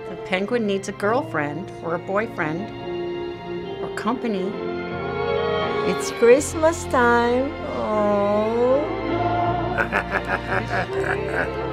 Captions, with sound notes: - The penguin needs a girlfriend or a boyfriend... or company. - It's Christmas time! (cooing) (laughing)